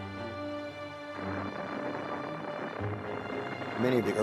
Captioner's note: rocket firing